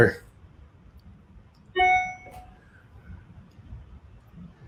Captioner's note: beeping